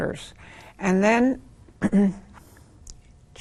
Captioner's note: clears throat